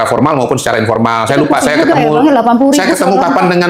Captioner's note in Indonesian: tertawa